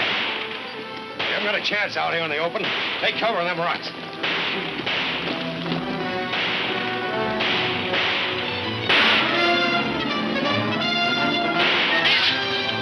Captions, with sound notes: We haven't got a chance out here in the open. Take cover in them rocks. (dramatic music) (several gunshots)